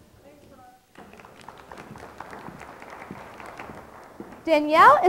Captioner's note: audience clapping